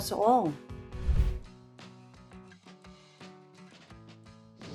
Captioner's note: graphics whoosh